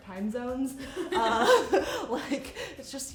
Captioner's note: laughing